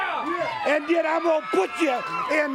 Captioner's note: crowd cheering